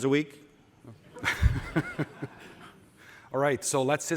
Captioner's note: laughter